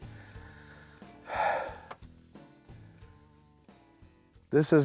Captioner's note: sighs